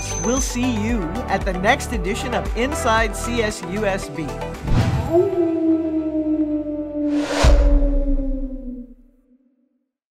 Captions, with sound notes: We'll see you at the next edition of Inside CSUSB. [ Whooshing Sound, Wolf Howling, Thumping Sound ]